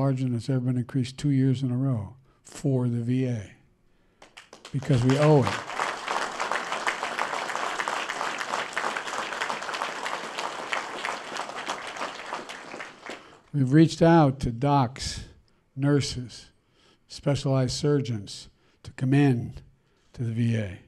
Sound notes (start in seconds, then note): 10.3 applause